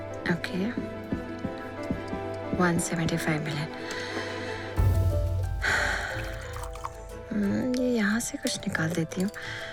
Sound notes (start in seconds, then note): 4.8 pouring tea; 5.5 sighs